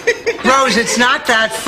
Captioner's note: Rose laughs